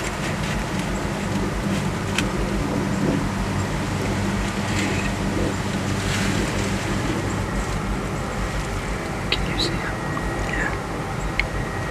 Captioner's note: sound of wind